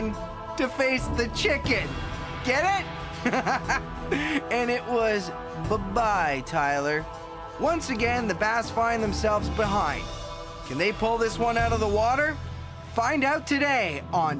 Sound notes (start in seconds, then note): 3.1 chuckles